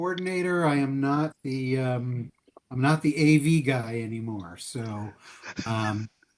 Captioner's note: laughing